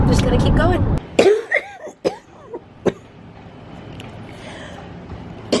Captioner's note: coughing